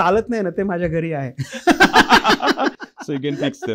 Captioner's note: laughter